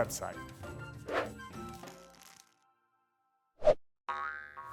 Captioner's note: screen whooshing